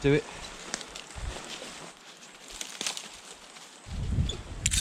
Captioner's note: branches cracking